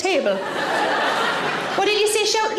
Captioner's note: audience laughs